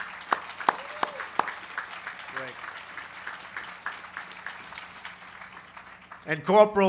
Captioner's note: applause